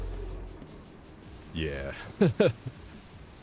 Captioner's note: laugh